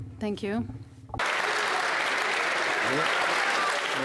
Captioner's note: applause